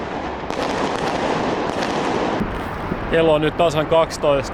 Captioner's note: bang